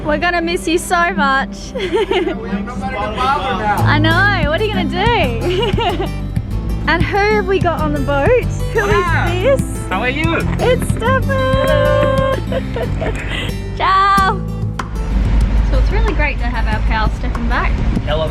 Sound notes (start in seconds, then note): 1.7 laughs; 5.4 laughs; 12.5 laughs